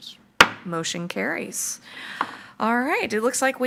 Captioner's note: gavel bangs